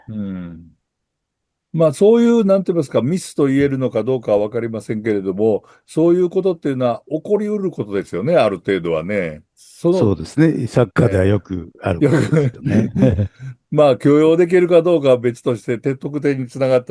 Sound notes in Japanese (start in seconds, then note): 12.0 笑い; 12.6 咳払い